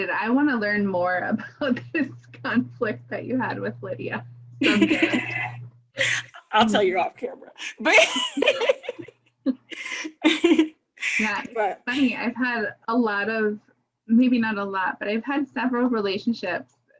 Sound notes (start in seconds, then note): 6.0 laughs; 7.5 giggles